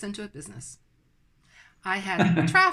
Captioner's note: laughs